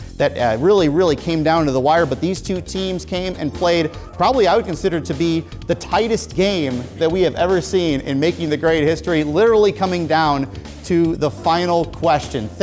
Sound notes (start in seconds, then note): none